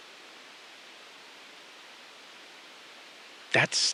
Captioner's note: SILENCE — 4 sec